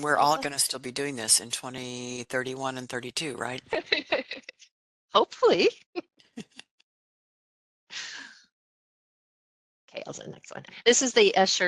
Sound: laughing

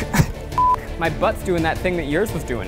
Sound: beep

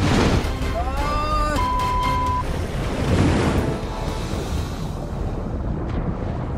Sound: beep

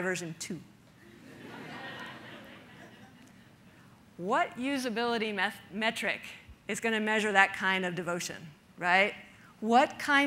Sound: audience laughter

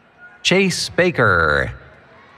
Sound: cheering

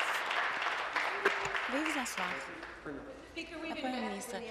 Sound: applause

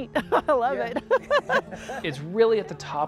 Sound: laughs

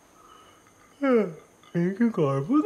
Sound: Jessy yawns

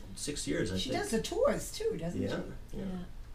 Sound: voiceover

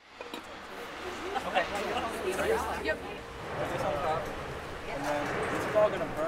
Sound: students conversing

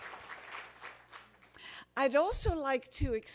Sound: applause

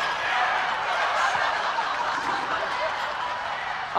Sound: more laughter from the show

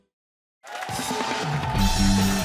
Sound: cheers and applause

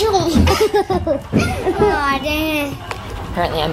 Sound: laughs

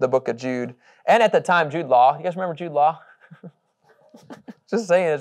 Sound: laughing

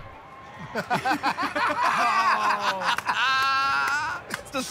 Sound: laughter

